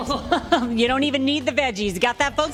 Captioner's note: laughs